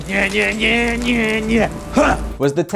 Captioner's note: humming lightly